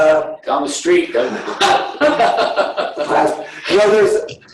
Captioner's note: laughing